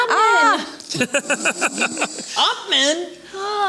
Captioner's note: laughter